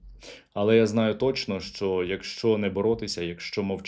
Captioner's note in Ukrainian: сопіння